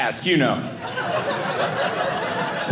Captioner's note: audience laughing